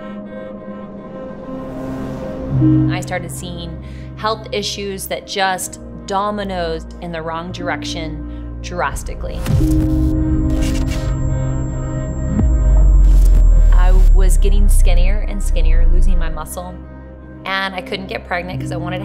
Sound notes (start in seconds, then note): 0.3 somber music; 9.4 chaotic static